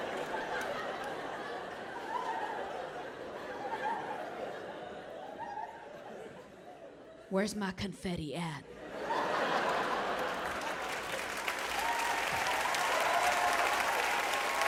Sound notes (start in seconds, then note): 8.7 audience laughing; 9.6 audience clapping and cheering